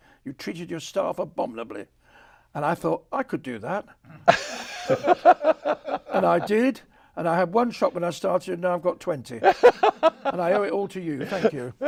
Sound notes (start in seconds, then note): 4.1 laughs; 9.4 laughs